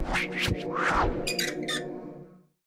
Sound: air whooshing; squeaking

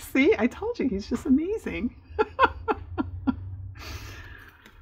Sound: laughs

